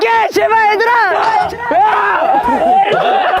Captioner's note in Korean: Өмнөхөөс өөр хөгжилтэй инээд